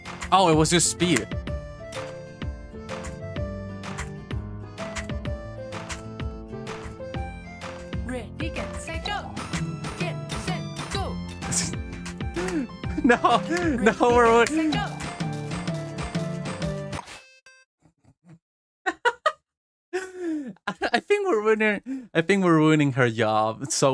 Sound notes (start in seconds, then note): 12.9 nervous laugh; 18.9 laughs in Spanish